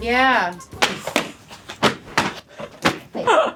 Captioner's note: slapping